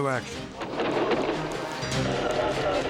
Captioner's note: gunfire banging; dramatic music